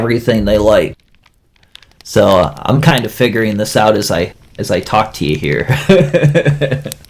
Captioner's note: laughs